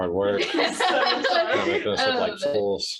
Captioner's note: group laughs